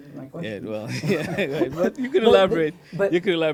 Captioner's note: laughs